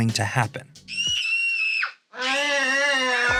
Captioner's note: screaming